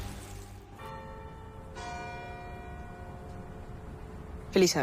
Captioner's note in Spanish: Campanadas